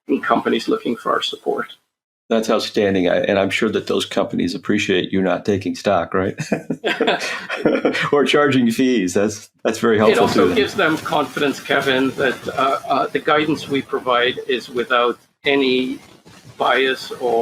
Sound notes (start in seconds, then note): 6.2 laughing